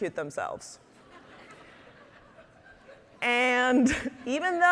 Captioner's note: audience laughing